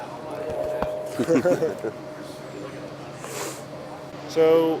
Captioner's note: both laughing